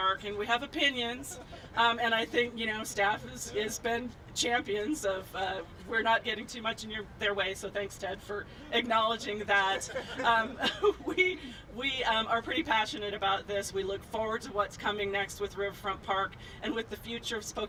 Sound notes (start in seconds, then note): 9.6 laughing